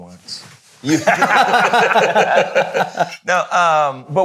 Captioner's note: all laughing